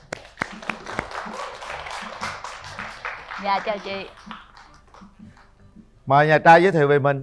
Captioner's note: applause